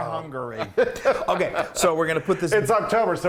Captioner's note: laugh